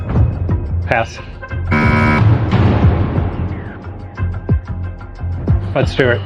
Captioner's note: buzzer sounds